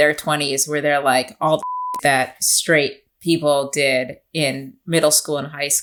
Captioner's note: beep